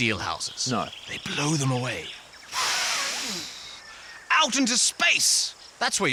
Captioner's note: blows